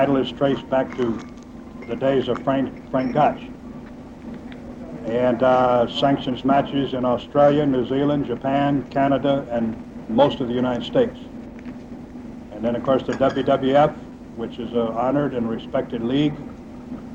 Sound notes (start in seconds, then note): 4.9 people chattering distantly; 13.0 kitchenware clink distantly